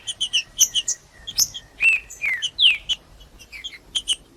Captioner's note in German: trinca ferro cantando